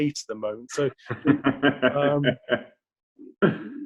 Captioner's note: laughs